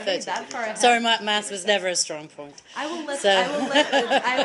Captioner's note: laughter